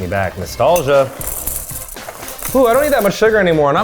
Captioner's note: cereal rustling